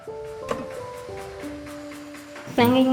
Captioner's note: scraping wood in the background